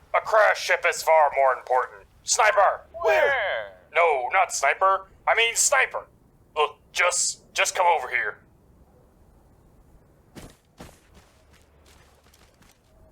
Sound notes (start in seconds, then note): 10.3 thud x2